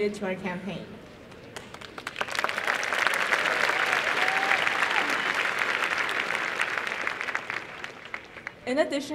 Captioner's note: applause